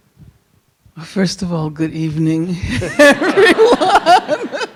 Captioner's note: audience laughing; laughs